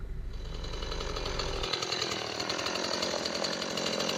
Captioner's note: chainsaw buzzing